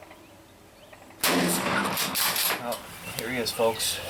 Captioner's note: gun shot burst